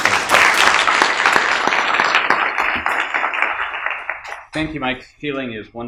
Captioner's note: audience applauding